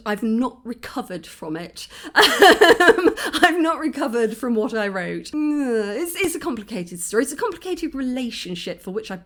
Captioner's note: laughing